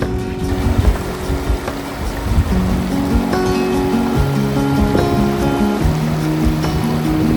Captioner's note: sounds of flowing water